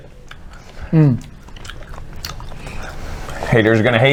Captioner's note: wet and sticky chewing noises